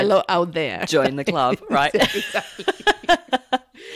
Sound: laughs

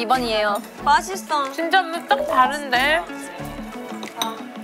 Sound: confident

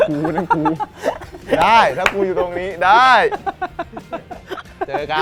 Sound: laughs

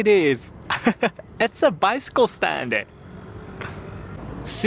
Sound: chuckles

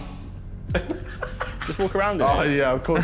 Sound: chuckling

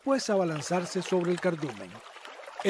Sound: water sounds with cormorants

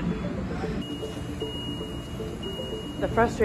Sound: machine beeping

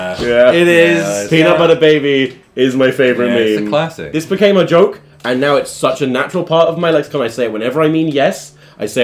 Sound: none

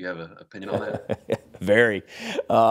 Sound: laughing

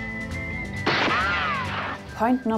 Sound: sound of gunshot

